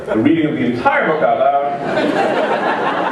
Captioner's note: laughter